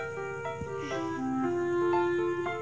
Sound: sighs

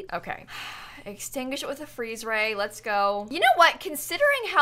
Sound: sighs

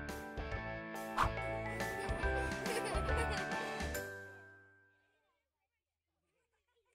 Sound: upbeat music; children laughing

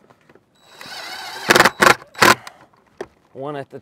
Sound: power tool whirring

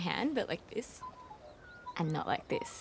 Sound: birds chirping

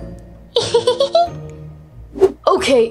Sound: bat giggles

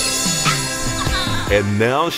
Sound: embarrassing squeal

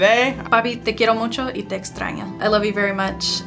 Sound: speaks Spanish

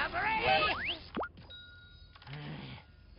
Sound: dings softly

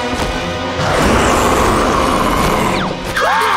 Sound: roaring; screaming

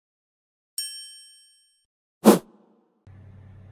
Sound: bell rings

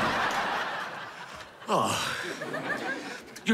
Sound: sighing

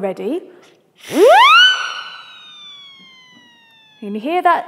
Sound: blows siren whistle

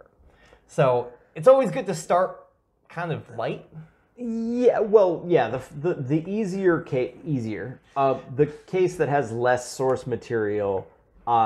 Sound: laugh

